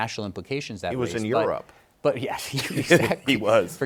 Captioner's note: laughs